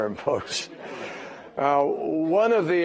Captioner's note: laughter